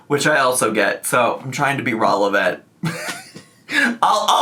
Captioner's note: laughs